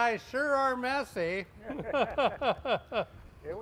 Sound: laughing

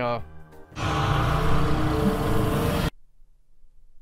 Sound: cthulhu noises

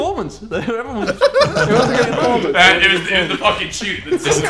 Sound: laughing

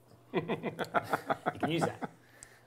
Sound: laughing

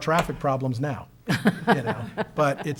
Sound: laughs

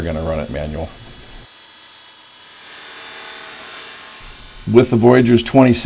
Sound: machine noise

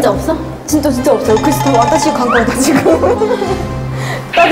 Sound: she’s talking quickly

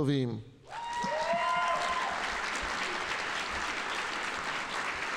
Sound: audience applauding

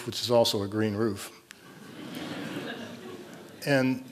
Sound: laughter

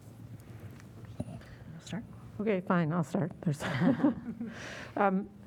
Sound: laughter

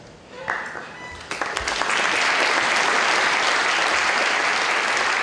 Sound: applause

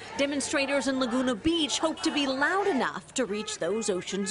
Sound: chanting

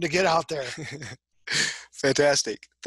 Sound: laughs

